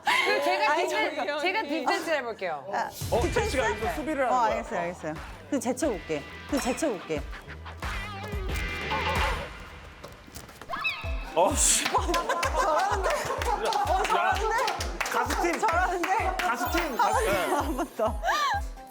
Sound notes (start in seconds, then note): 5.3 confident